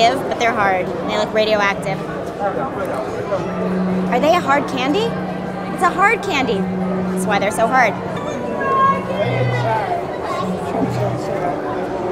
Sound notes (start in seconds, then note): 8.6 child yelling